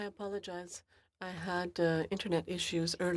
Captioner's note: speaking French